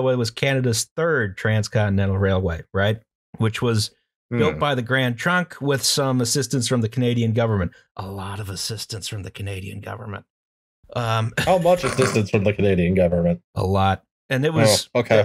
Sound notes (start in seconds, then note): 7.5 stage whisper; 11.3 laughter